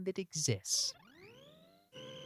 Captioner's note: laser beeping